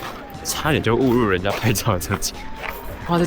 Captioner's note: laughs